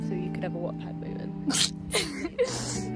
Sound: laughter

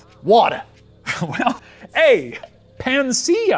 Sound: laughs

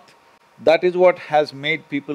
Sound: none

